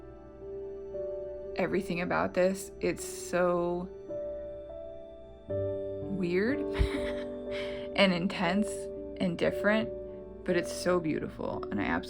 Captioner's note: laugh